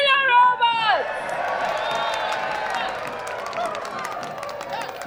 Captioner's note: crowd cheers